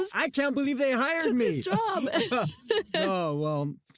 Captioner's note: laughs